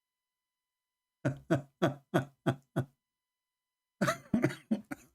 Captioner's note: Ketawa